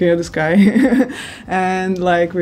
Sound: chuckles

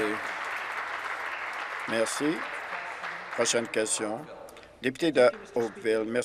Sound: applause

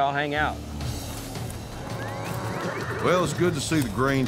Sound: cows mooing

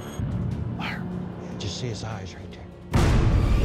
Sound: whispering

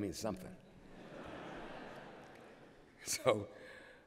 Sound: laughter

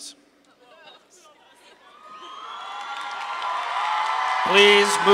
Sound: audience applauding

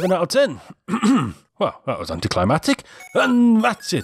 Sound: ahem

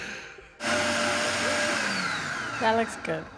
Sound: food processor whirring

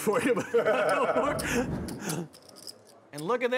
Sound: laughing

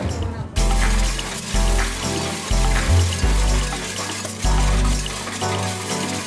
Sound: upbeat music; coins rattling

